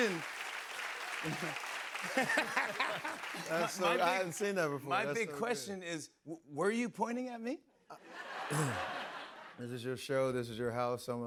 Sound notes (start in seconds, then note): 0.0 cheers and applause; 8.0 laughter